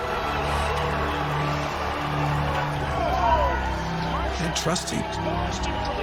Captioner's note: crowds cheering